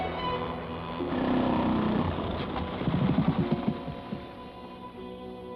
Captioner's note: engine turns off